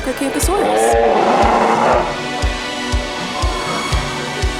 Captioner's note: Acrocanthosaurus roar